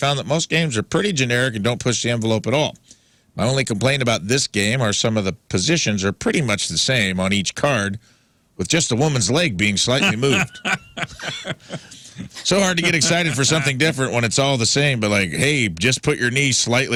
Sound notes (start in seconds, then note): 9.9 laughing